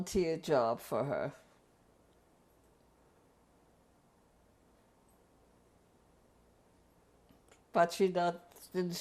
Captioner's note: pauses for 6 seconds